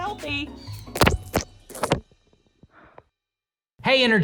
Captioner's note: water splashing